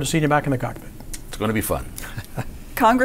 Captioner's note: laughs